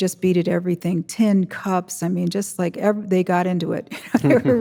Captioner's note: chuckles